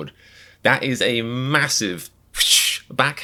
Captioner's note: slap noise